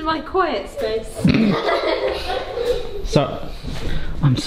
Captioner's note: all laughing